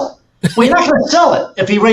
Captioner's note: laughs